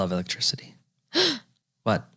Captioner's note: gasp